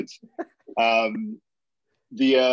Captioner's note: laughing